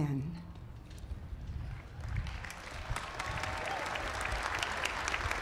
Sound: applause

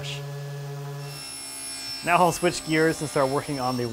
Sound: saw buzzing

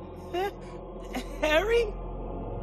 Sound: nervous laughing

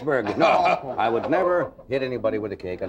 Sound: audience laughing

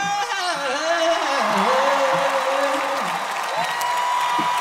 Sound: crowd cheering

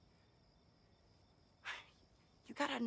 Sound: sighs

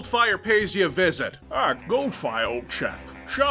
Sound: Connery impersonation

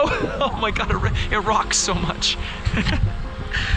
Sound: laughing

